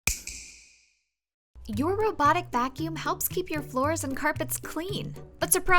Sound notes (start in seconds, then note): 0.0 snap